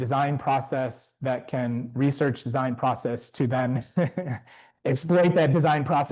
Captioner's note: chuckles